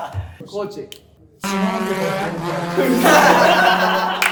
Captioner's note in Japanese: バイク通過音; 笑い声